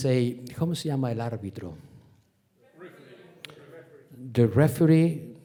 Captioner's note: speaking Spanish